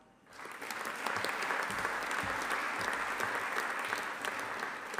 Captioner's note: audience applauding